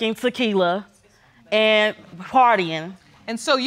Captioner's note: audience muttering